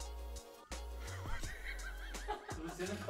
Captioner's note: laughter sounds